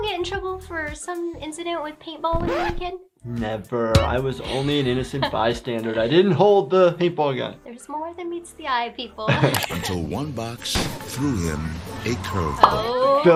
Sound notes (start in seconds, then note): 2.4 record scratching